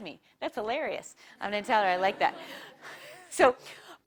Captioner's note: laugh